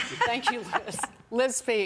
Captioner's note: laughter